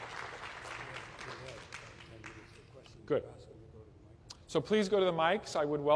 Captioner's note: applause